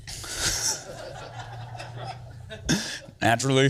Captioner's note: crowd laughs